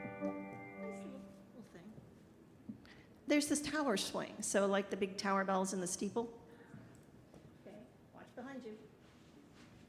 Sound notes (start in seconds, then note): 0.9 speaking softly